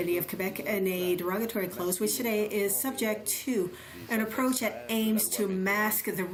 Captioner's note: speaking french